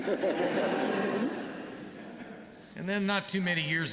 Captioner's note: laughter